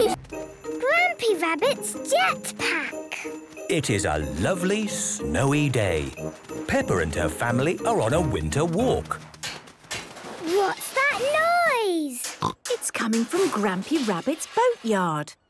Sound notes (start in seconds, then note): 9.5 distant banging, crashes